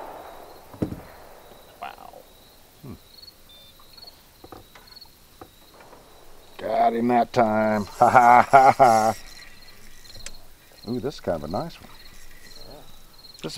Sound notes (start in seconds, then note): 4.9 laughs